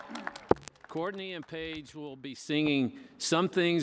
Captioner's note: cheers and applause